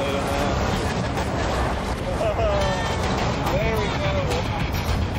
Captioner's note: laughs